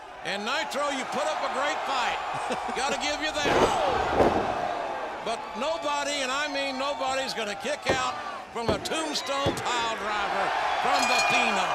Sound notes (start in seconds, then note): 3.4 body slams; 10.9 bell rings